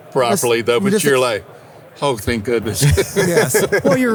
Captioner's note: laughs